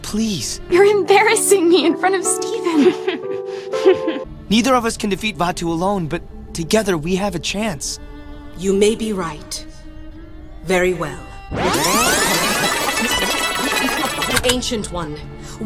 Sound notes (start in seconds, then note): 11.5 sound of a Video Being rewound